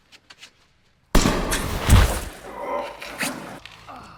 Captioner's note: man thudding; gun banging; Dan groaning